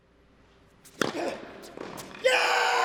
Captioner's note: grunts